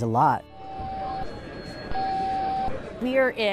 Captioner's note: phones ringing and beeping at EOC call center